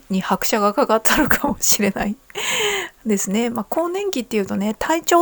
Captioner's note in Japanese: 笑い; 息をのむ音